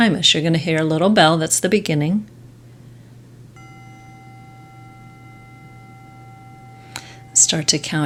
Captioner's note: bell rings